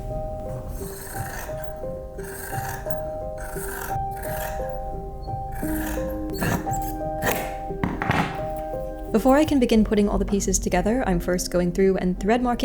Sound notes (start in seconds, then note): 0.0 gentle music; 0.3 cutting asmr; 4.8 cronch cronch